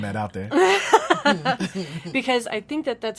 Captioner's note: laughs